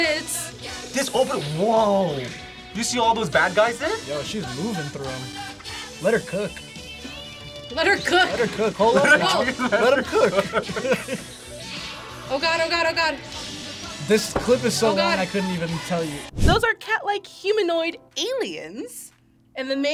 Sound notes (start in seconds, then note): 7.1 laughs; 8.6 both laugh